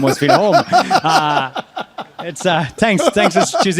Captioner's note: laughing